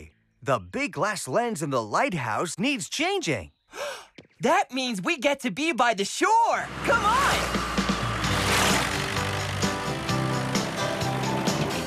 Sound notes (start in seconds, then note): 3.7 gasp!; 6.6 engines Rumble